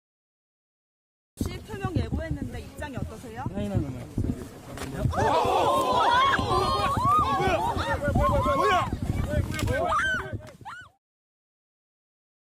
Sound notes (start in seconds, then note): 5.1 people scream